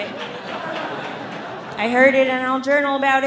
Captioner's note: audience laughing